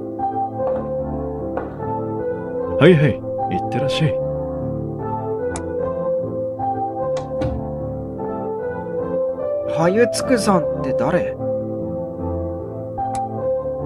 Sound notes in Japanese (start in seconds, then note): 1.6 足音：コツン コツン･･･; 7.1 扉の開閉音：ガッタン